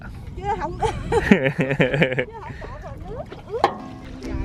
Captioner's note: laugh